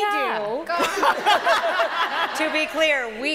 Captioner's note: laughter